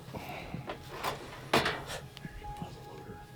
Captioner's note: rifle clunking; quiet music